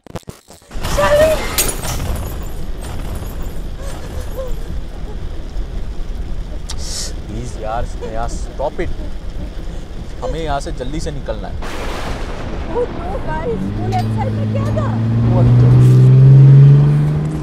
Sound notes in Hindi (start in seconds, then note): 0.7 कार का आगे का कांच टूट ने की आवाज; 7.6 स्नेहा रोते हुए